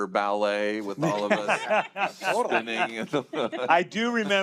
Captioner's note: laughter